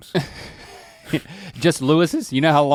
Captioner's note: Link chuckles